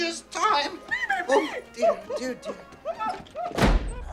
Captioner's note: squeaks